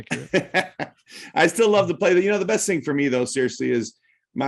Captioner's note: laughter